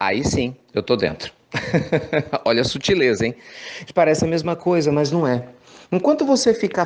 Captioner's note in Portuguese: risos